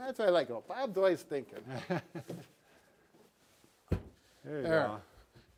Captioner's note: laughing